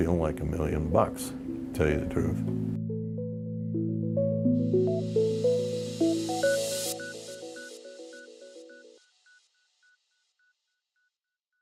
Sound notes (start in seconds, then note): 3.7 digital pulsing